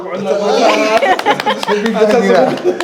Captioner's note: clapping